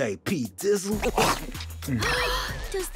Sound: gasping

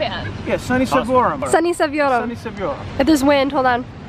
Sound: speaking in foreign language

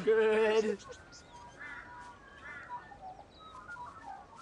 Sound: birds chirping

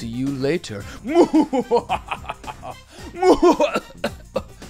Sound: evil laugh

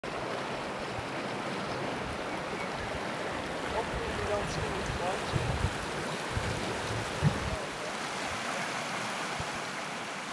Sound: water flowing

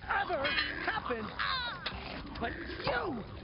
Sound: toppings snarling

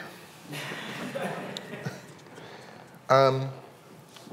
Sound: people chuckling

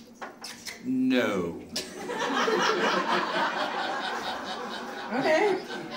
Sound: audience laughing

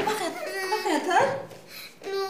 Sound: cries

